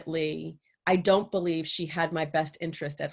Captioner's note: none